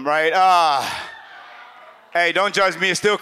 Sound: audience laughs

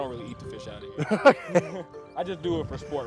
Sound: laughing

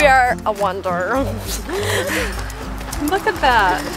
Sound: laughing

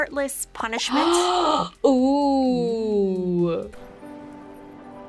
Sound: gasps

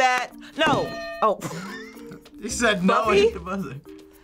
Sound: bell rings; laughs

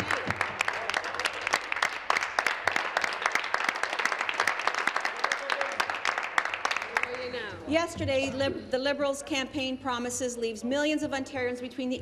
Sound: applause

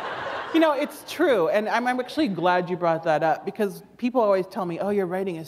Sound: laughter

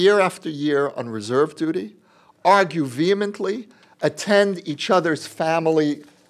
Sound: none

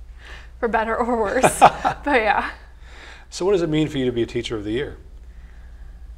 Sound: laugh

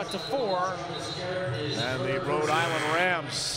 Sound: buzzer

